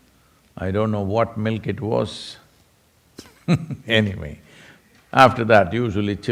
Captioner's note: laughs